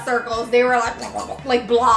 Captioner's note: sputters